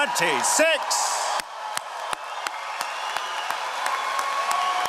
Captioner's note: all applauding